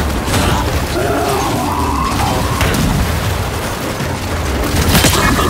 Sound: distant explosion

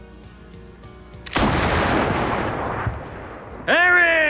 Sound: gunshot

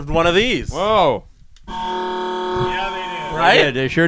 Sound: bwaahhhhhhh

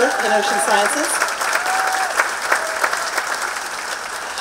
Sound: applause

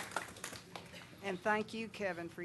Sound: clapping

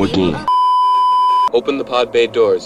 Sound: beeeeeep

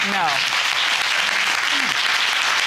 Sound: audience applauding

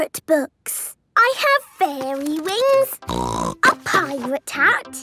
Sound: snorting

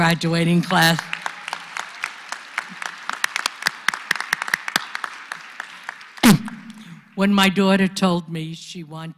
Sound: applause

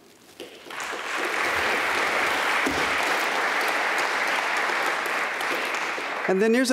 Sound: applause

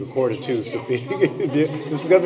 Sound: laughter

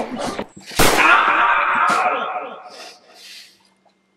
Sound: choking; bang!; echoing

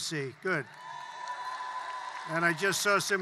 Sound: applause

